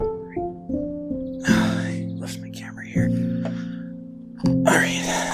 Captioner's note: sigh, mumbling